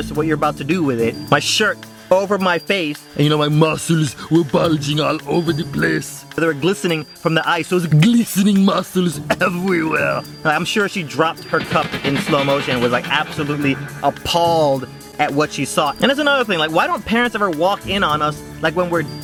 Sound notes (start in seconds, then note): 3.3 Arnold Schwarzenegger voice; 7.7 Arnold voice